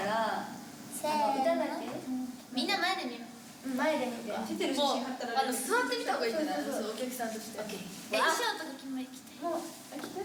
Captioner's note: speaking Japanese